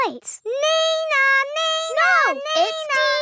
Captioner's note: imitates siren